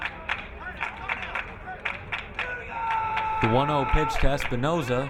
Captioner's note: crowd cheering